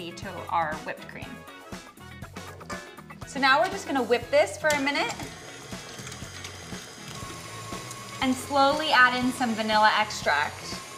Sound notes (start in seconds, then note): 1.6 upbeat music; 4.6 mixer whirling